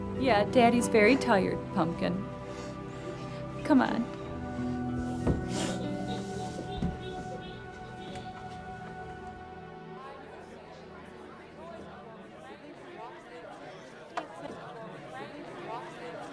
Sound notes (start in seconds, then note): 5.2 somber music continues; 10.1 group chattering